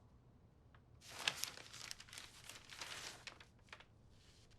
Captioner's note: pages flipping